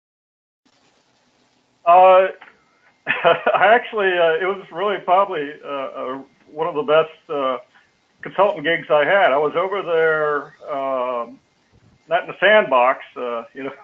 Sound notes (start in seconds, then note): 3.0 laugh